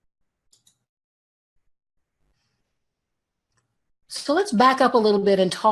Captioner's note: mouse clicks